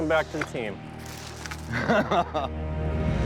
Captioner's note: laughs